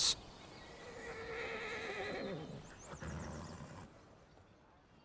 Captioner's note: horse neighing